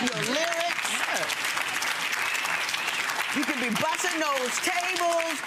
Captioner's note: audience applause